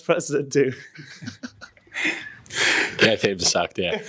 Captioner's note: laughing